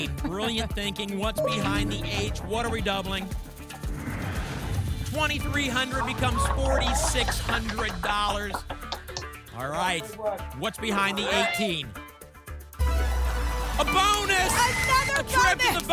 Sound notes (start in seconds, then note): 3.2 whoosh; 7.5 applause